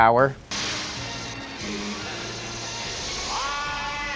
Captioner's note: electricity crackles